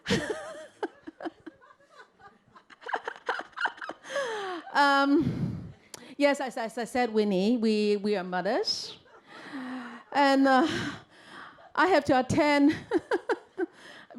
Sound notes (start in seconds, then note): 0.0 chuckles; 8.9 audience laughter; 12.8 giggles